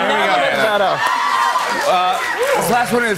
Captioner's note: cheers and applause